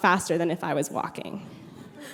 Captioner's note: brief laughter